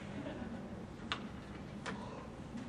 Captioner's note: students chuckle